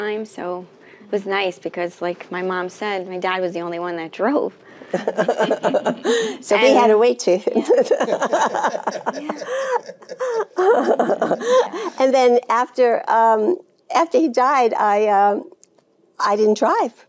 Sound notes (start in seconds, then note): 7.6 Jane laughing